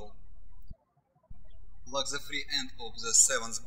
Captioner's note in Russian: птички щебечут